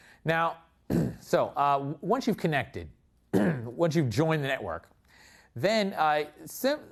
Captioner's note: cough